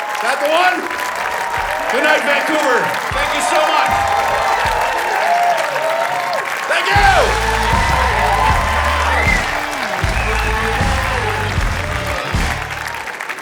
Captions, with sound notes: That the one? Good night. Vancouver. Thank you so much. (Audience cheering) Thank you! (Outro music plays)